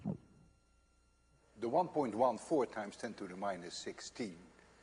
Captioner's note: tape slows down